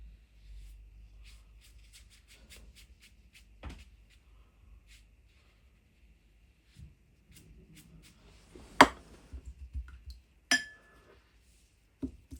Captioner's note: ding